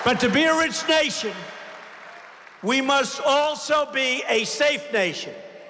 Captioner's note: applause